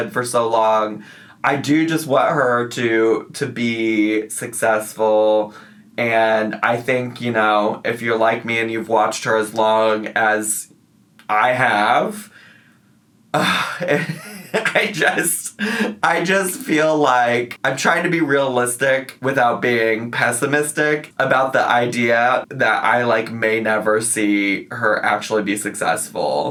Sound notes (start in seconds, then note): 13.3 sighs and laughs